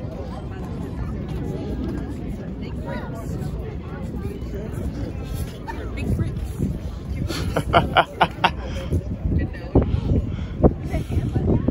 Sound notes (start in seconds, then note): 7.3 laughing